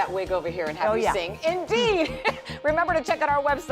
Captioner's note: laughter